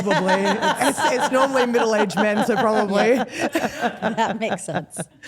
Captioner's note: laughs